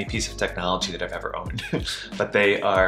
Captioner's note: chuckles